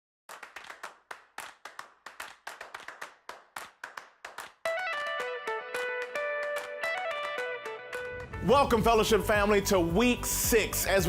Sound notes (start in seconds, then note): 0.2 clapping; 4.7 electronic music